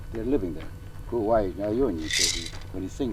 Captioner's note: speaking in native language